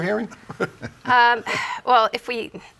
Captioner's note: laughing